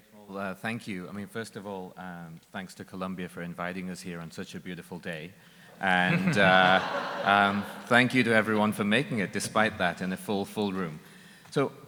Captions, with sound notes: - Great, well, thank you. First of all, thanks to Columbia for inviting us here on such a beautiful day. (audience laughing) Thank you to everyone for making it despite that, and a full room.